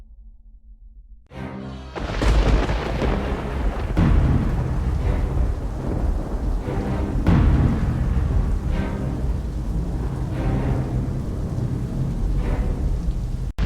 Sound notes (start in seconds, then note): 1.1 dramatic music; 1.9 gate creaking; 1.9 thunder crackling; 4.4 rain pouring